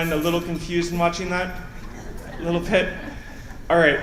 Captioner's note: laughter